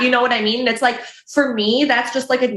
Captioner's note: chuckles